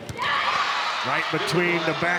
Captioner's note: ball thumping; audience cheering